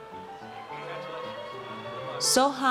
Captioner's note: audience cheers